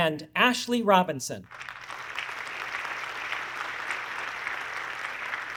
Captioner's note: audience clapping